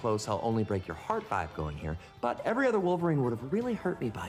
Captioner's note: none